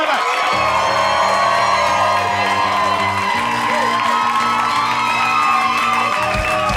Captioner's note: audience cheering; bright music